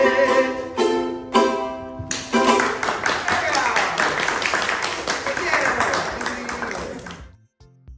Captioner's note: applause